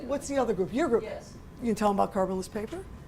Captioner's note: voiceover